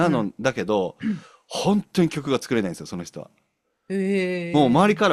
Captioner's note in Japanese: 咳払い